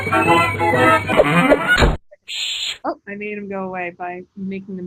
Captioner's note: sound of door slamming, man saying, "shh